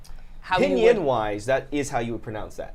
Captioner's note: speaking in foreign language